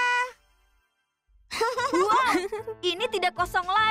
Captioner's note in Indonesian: tertawa